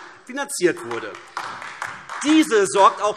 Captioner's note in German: Beifall AfD